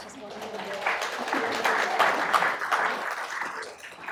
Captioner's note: applause